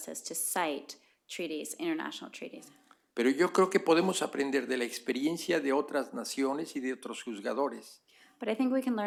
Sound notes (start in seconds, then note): 5.5 speaking spanish